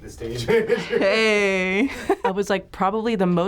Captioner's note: laughs